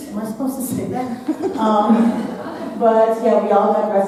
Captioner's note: audience laughing